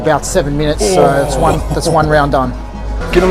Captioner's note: loud grunting